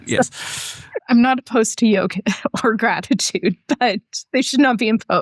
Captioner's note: laughter